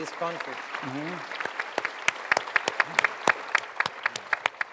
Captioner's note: applause